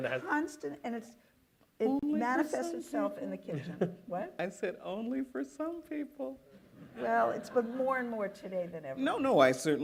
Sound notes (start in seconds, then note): 6.1 laughter